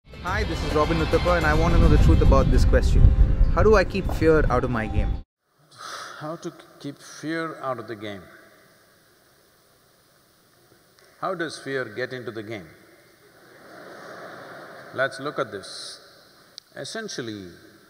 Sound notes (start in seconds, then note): 13.3 few laugh